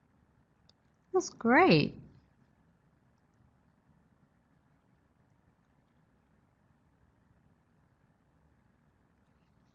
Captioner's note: silence